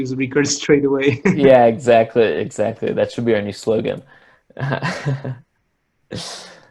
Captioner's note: laughs; laughs